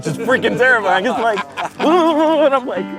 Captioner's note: struggling; laughing